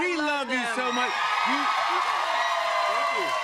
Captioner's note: cheers and applause